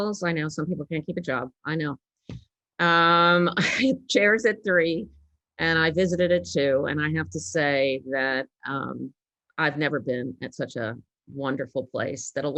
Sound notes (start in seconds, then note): 3.4 chuckles